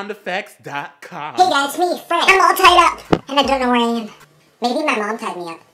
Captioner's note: in the high pitched-squeak voice again